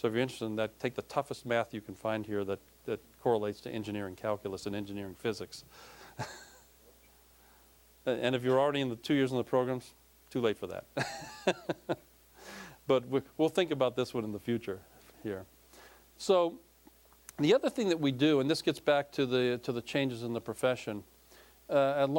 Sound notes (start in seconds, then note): 6.1 chuckling; 11.0 laughing